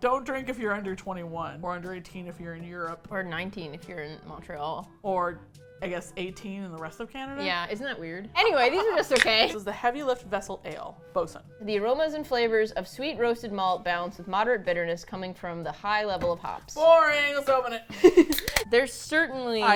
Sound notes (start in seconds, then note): 8.4 laughs; 17.8 laughs